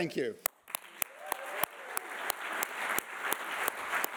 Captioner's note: audience applauding